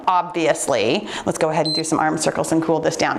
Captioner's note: timer beeps